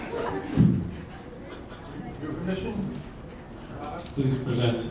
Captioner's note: audience laughing